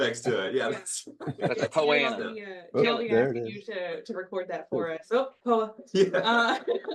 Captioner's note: laugh